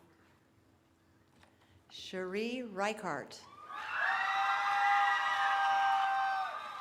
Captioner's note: cheering